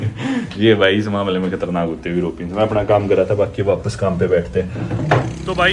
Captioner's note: laughing